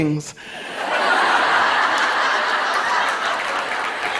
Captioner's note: laughter